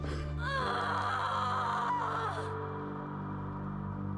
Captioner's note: woman screaming